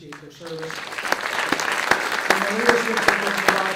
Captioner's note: audience clapping